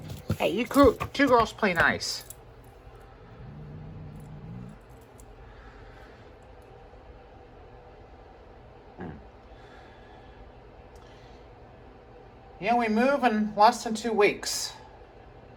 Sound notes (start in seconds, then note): 3.1 Caprice growls